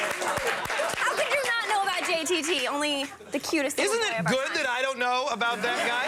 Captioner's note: applause